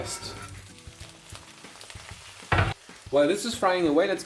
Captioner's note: pan sizzling